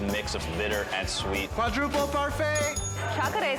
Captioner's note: bell dings